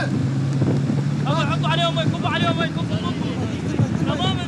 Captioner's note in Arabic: الصوت المنطوق باللغة العربية